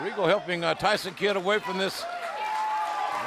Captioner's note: crowd chatter